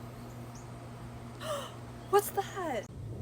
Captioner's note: gasp